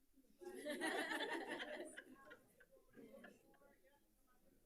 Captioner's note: people laughing